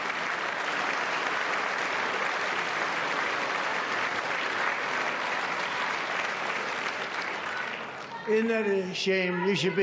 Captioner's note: applause